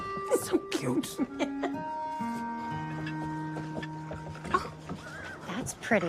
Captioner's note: chuckles